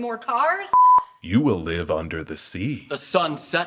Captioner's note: beep